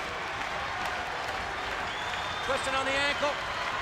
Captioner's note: audience applauds and cheers